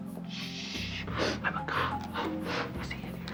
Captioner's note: whispering